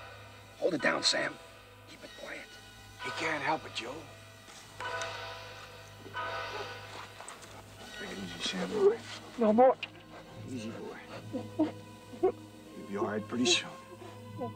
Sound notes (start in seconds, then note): 0.3 whispers; 10.0 sobbing